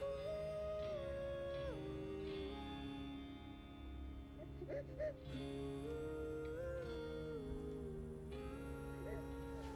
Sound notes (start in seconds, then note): 4.5 crying